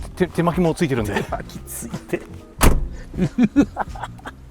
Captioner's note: laughs